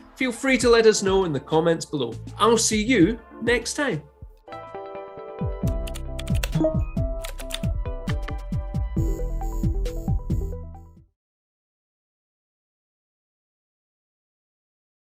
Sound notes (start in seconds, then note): 4.1 computer keyboard clacking; 4.1 logo theme music